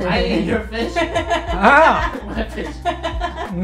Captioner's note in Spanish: Risas